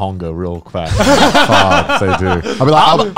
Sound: laughing

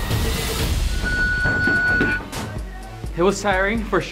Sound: round timer sounds

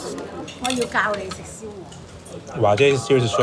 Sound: woman speaking Cantonese

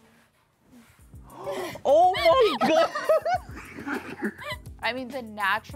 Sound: gasps

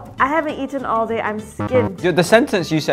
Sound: buzzer buzzes

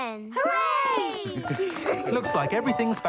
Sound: cheers

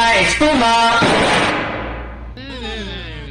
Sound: boom

